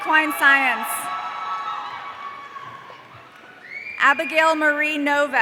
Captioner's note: audience cheering